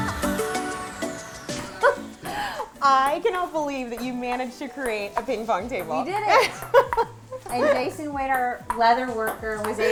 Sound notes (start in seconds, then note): 6.3 laughter